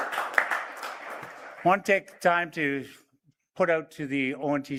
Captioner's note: applause